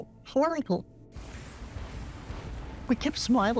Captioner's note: explosion booming